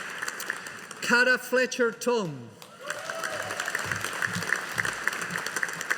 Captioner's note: audience applauding